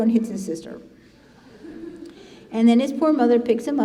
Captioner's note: congregation laughing